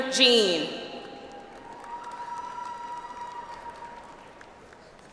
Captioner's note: audience applauds